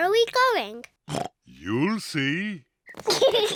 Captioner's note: oinks; kids giggle